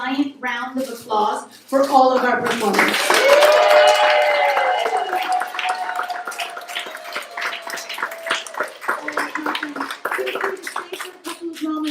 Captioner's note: applause